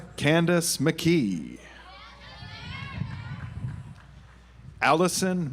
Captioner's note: audience applauds